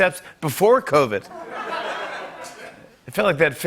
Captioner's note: laughter